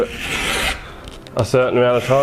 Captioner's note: saw file grinding